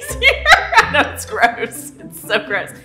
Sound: laughing

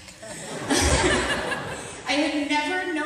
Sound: audience laughter

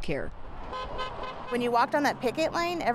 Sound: car honking

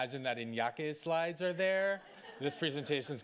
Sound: audience laughing

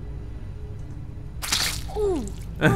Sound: squirting; laughs

